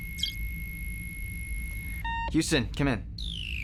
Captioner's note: computer beeps